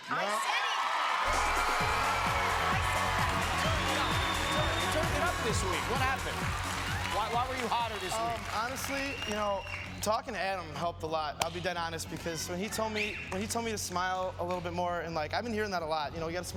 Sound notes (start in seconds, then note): 5.3 cheers and applause